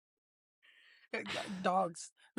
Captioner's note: laughing